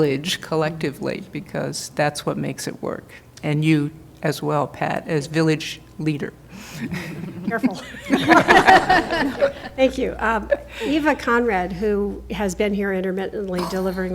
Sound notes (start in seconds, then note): 12.1 laughter